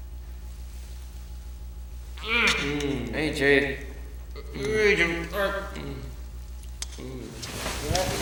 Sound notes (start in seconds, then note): 2.2 kissing